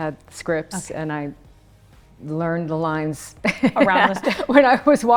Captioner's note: laughs